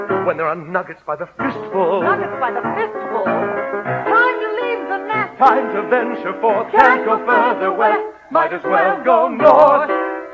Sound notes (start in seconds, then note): 2.1 spoken, eager; 4.2 singing